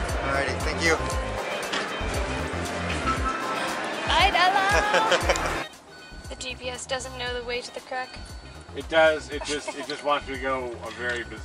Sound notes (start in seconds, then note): 4.6 laughter